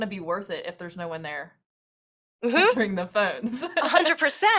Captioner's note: laughs